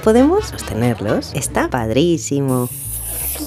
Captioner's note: mexican accent